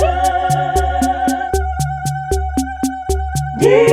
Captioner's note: ululating